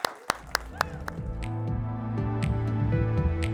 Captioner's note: applause; gentle music